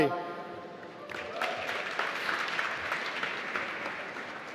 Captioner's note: applause